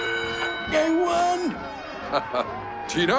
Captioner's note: bell rings; laughs